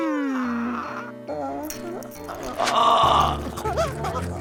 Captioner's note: Nutty whimpering